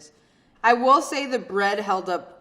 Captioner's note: none